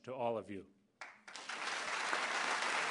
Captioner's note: applause